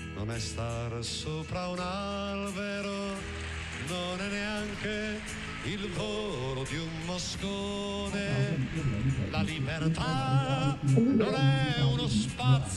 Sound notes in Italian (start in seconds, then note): 8.0 voce registrata, ovattata